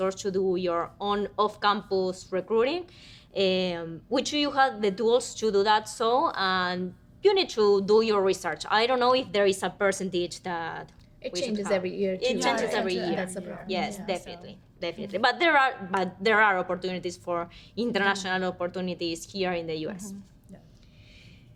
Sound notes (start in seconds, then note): 12.6 women agreeing